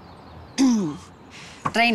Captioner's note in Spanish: Carraspea